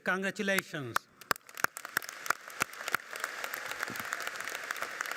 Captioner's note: audience clapping